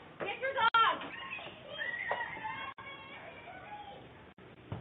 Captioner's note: girl crying